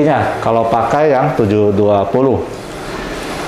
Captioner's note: printer machine sound; printer machine sound